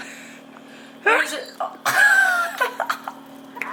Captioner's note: laughing